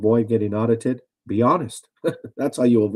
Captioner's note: chuckles